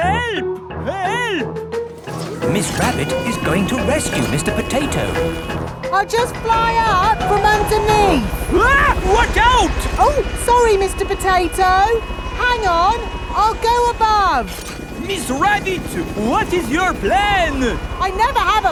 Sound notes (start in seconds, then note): 8.9 screams